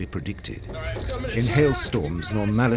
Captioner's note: passengers shouting